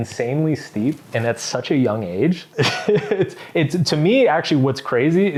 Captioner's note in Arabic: يضحك